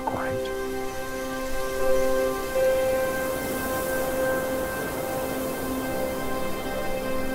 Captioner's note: soft poignant music; water rushing